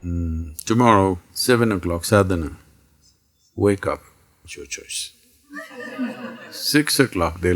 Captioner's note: laughter